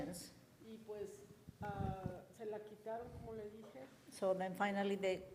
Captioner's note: woman speaks in foreign language